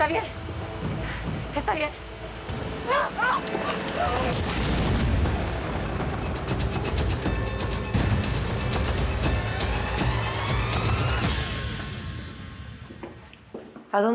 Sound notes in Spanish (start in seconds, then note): 2.9 gritos; 4.3 explosión